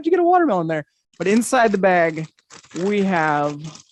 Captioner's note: paper rustles